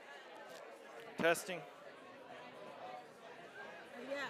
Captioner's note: background chatter